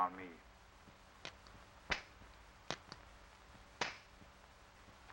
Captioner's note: guns clicking